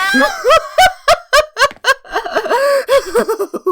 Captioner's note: uncontrollable laughter